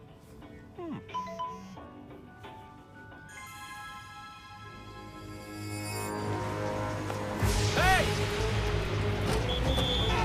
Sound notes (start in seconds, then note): 7.8 whistle blows